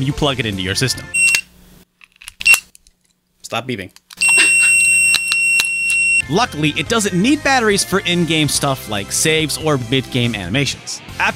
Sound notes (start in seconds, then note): 1.1 VMU beeps; 4.2 long, sustained beep